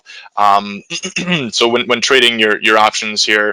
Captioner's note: clears throat